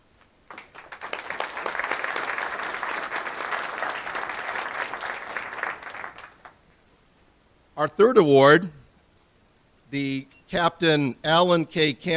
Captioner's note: applause